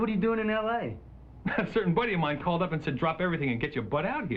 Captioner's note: scoffs